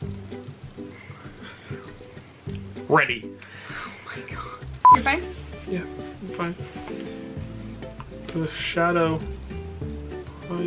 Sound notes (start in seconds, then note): 0.1 happy string music; 4.8 beep; 7.1 happy string music